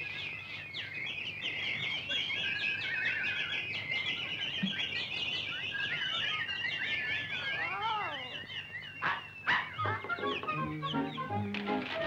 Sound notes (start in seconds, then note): 0.6 birds chirping; 9.4 Pudgy barks